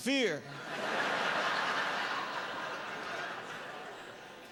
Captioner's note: laughter